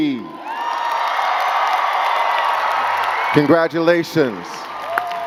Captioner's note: crowd cheering and clapping